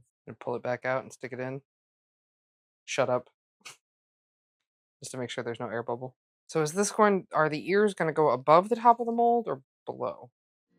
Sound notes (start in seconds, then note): none